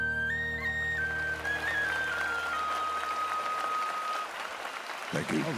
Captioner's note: applause